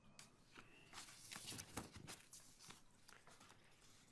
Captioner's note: pages rustling